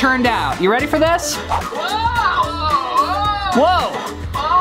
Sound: groans

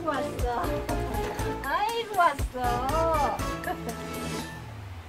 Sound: laughs

